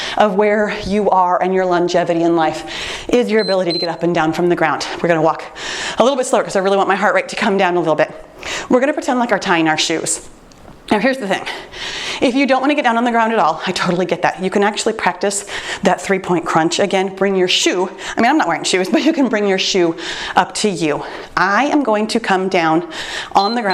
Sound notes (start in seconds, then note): 3.4 timer beeps; 23.3 timer beeps